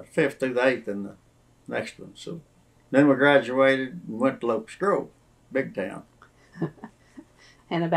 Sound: laughs

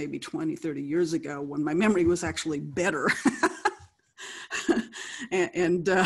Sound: laughing; laughs

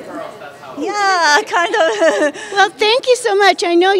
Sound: laughter

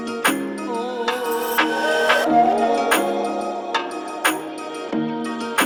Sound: clap

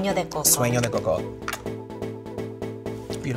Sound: lips smacking

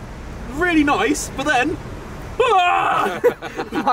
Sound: laughing

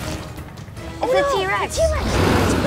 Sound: dinosaur chomping

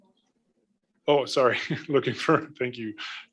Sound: laughs

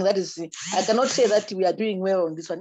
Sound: buzzing

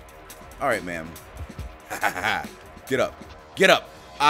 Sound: laugh

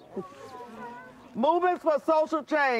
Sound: laughs

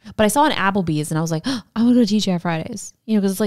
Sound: gasps

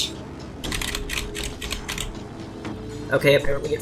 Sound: typing

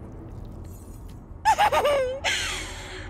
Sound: crazy laughter

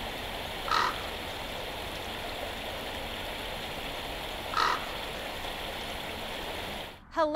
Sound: sound of water falling over rocks

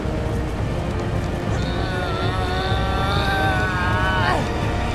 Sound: grunting

